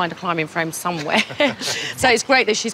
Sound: laughs

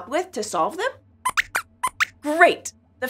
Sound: squeaks squeaks

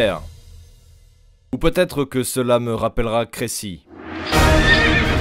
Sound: French

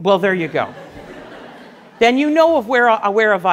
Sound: class laughs

